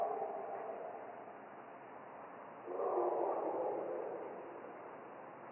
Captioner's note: creature continues barking